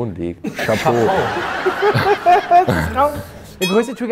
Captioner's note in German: Lachen